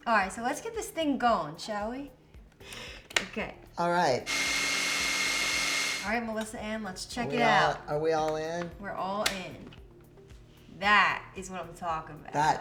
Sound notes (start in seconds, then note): 4.2 blender whirling